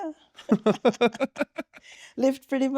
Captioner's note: laughing